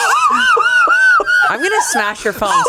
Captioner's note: laughs